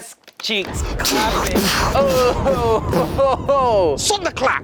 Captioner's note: thunder sounds